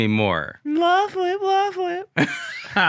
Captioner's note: mockingly; laughing